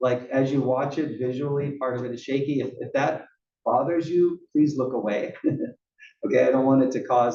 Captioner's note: laugh